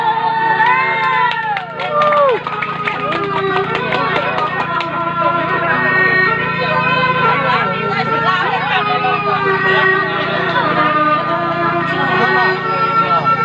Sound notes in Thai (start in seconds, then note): 0.5 ปรบมือ